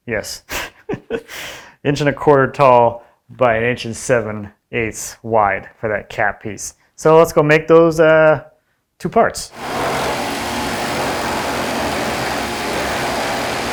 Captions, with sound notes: Yes. Inch and a quarter tall by an inch and 7/8 wide for that cap piece. So let's go make those two parts. (drill drilling)